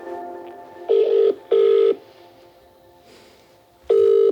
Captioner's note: phone ringing